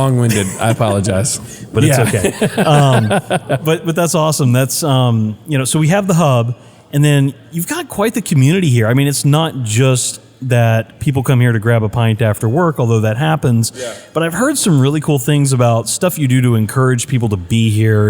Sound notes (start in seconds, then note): 3.0 laugh